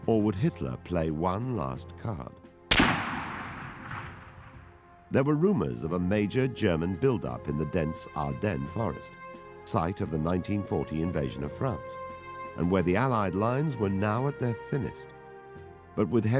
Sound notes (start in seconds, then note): 2.7 rifle firing